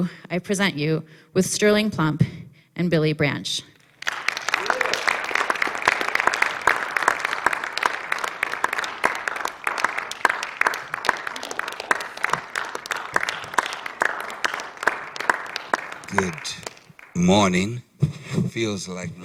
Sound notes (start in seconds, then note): 3.8 applause